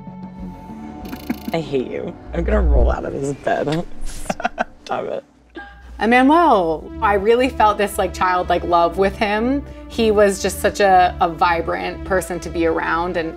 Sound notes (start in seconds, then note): 3.6 laughing